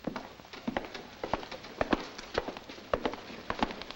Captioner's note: footsteps echoing